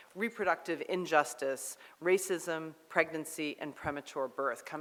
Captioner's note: none